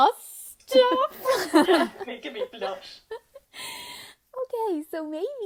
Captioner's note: participants laughing